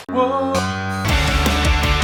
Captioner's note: guitar string scraping; alternative rock music; humming